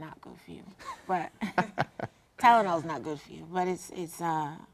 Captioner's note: laugh